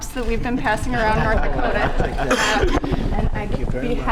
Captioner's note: laughter